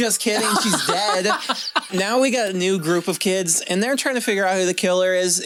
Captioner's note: laughter